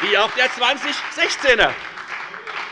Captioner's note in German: Beifall bei der FDP